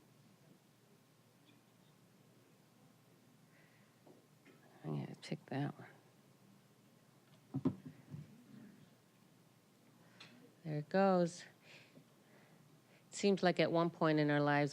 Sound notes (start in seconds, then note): none